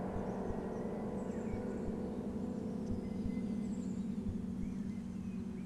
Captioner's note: birds chirping